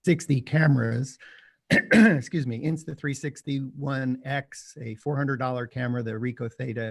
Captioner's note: coughs